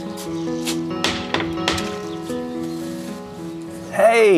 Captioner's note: door knocking